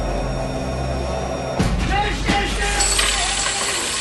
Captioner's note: Човек вика на немски